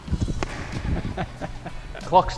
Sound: laughs

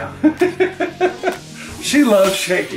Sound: laughs

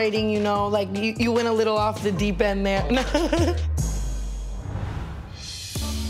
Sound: giggles

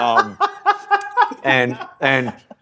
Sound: cracks his voice; laughs

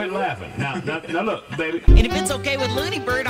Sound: Beach Bear laughs

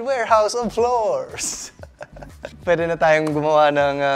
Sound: chuckles

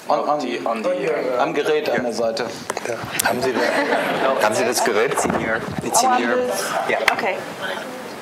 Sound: speaking german

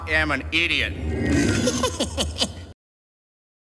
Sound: goofy snickering

